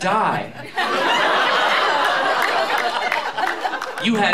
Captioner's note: laughter